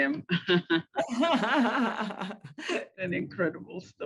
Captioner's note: laughter